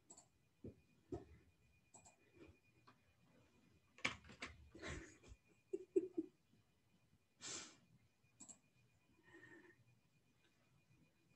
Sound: mouse clicking

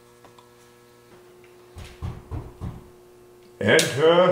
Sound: knocking

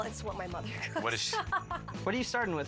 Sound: laughs

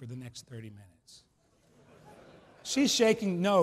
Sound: laughs

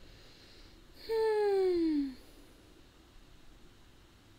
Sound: sigh

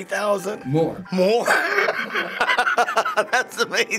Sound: laughs

